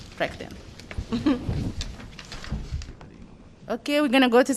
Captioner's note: laughter